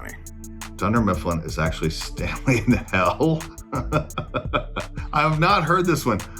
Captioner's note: laughs